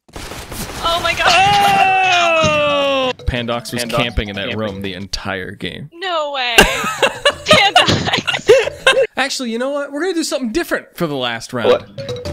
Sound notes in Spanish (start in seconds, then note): 1.3 disparos; 6.6 risas